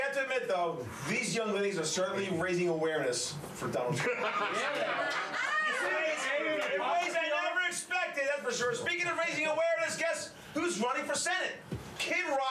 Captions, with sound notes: - WE HAVE TO ADMIT, THOUGH, THESE YOUNG LADIES ARE CERTAINLY RAISING AWARENESS FOR DONALD TRUMP. [Laughter] IN WAYS THEY NEVER EXPECTED, FOR SURE. SPEAKING OF RAISING AWARENESS, GUESS WHO'S RUNNING FOR SENATE?